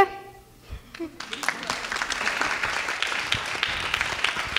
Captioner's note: clapping